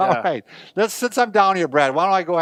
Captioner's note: laughs